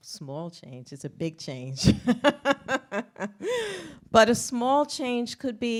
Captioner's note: laughs